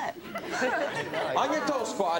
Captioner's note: audience laughs